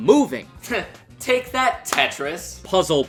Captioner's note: scoffs